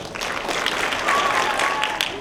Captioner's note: applause